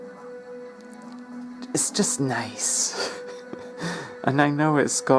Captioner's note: titters